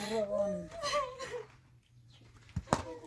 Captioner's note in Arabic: ضحك